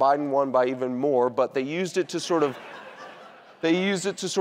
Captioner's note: audience laughing